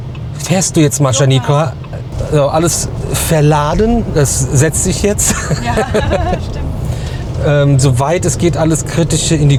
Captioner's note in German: gelächter